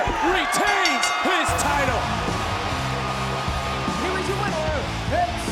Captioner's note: bell rings